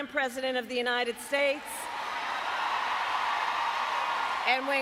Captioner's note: applause